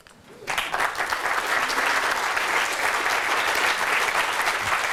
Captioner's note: applause